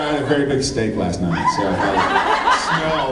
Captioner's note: laughs